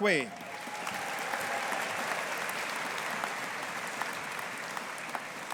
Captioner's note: audience applauding